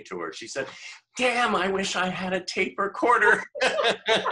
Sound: laughter

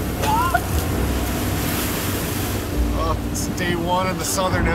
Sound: coughing

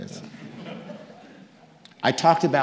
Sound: audience laughing

